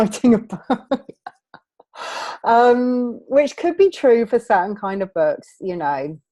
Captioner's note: laughing